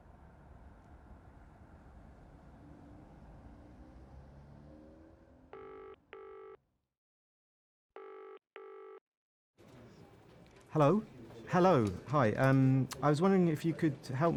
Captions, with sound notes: [PHONE RINGS] Hello? Hello. I was wondering if you could help me?